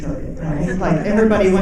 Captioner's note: audience laughing